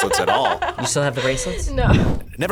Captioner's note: laughs